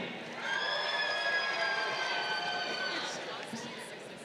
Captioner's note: crowd cheering